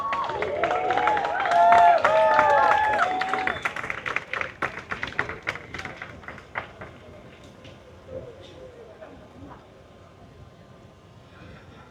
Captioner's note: applause